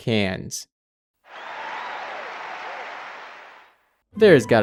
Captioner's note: applause